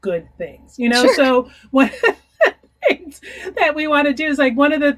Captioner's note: chuckling